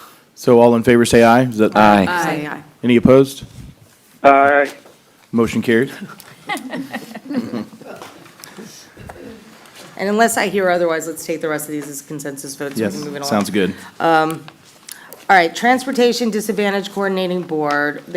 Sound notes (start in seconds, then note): 5.9 laughter